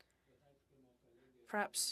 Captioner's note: speaking French